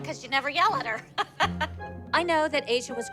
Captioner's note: laughs